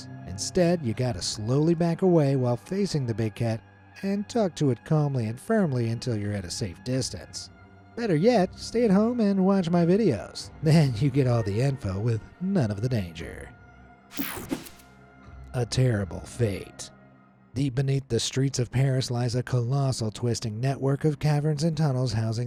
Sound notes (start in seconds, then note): 14.1 transition slashes